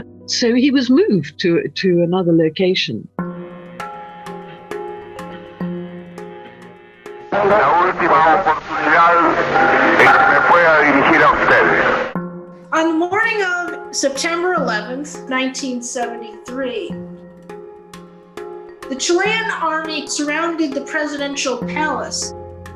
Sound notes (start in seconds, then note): 3.3 upbeat music; 7.4 speaks in foreign language